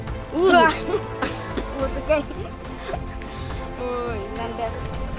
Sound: laughs

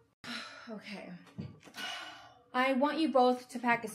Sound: sighing

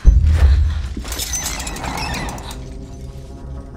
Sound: creaking

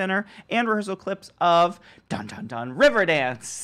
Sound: imitates "Jeopardy" music

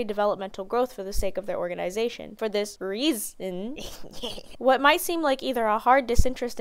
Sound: ehehehehe

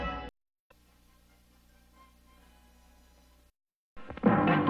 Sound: silence; retro music resuming

